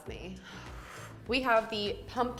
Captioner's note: exhales deeply